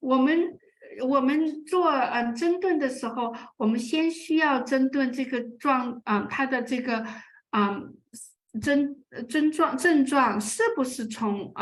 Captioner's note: speaking chinese